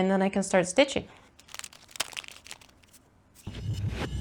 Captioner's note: more packaging crinkling